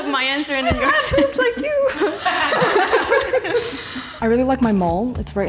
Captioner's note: laughter